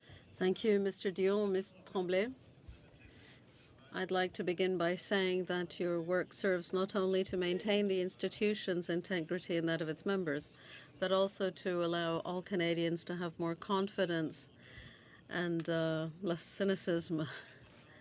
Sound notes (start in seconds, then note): 4.3 speaking French